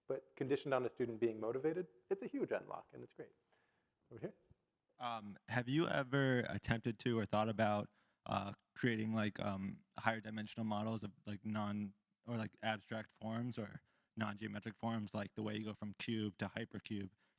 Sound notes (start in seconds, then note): none